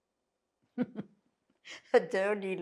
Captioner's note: laughing